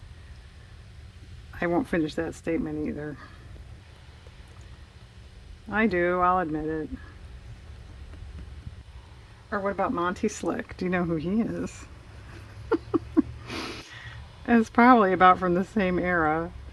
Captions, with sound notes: I won't finish that statement either I do, I'll admit it or what about Monty Slick? do you know who he is? (laughs) that's probably about from the same era